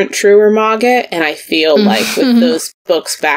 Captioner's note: sighs